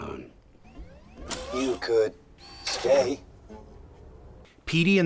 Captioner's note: whirring; whir